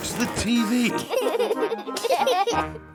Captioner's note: laughter